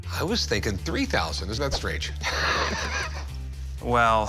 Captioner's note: laughs